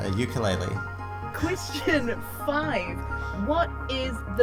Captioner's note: chuckles